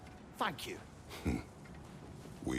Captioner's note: laugh